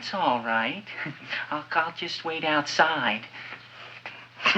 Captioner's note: chuckles